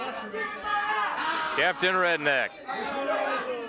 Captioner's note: wrestler bellowing